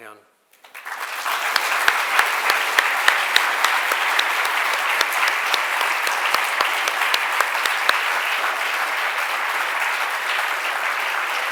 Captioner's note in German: Applaus